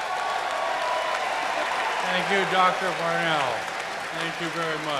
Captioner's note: cheers and applause